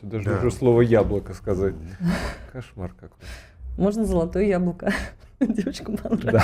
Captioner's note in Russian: смех